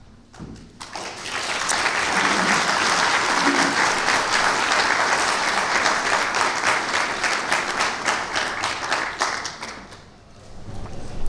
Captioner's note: clapping